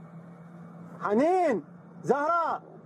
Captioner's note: speaking Arabic